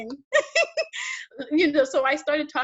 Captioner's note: laughs